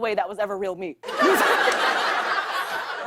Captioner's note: laughter